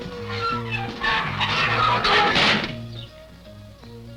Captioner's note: creaking